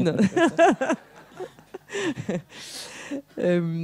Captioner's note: laughs